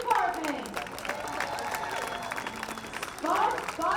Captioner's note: applause continues